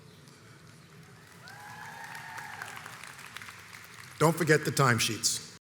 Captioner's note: audience applauds and cheers